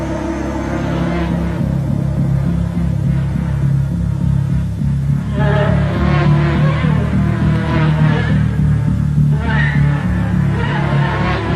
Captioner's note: buzzing